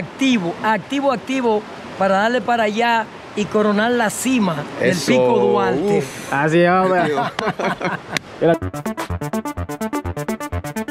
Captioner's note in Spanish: risas